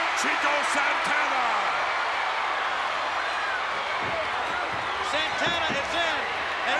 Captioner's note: applause